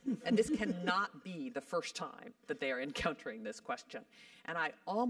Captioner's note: laugh; laugh